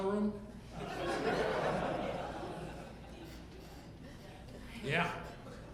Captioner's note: audience laughing